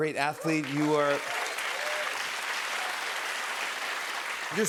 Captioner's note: cheers and applause